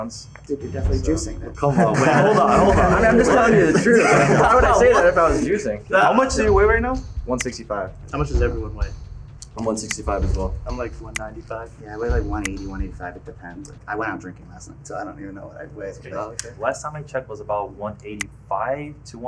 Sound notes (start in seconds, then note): 1.6 everyone laughing; 7.5 button clicking; 10.2 button clicking; 18.1 button clicking